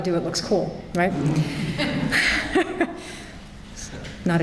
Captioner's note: polite laughter